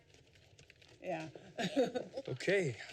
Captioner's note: laughs